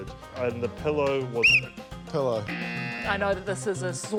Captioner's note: blows whistle